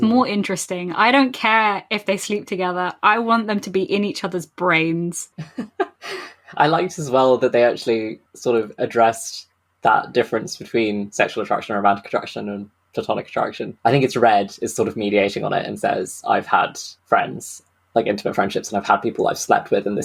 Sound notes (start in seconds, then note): 5.3 laughs